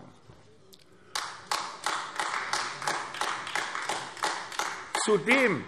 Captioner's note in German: Beifall AfD